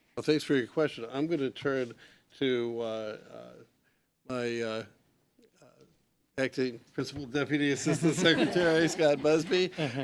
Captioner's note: laughter